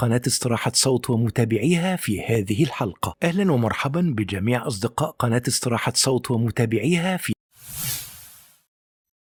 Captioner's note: arabic VO